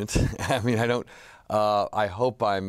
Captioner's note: laughs